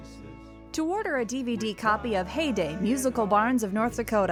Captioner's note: voiceover